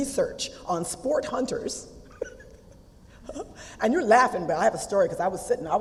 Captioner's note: laugh